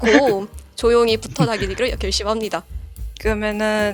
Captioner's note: laugh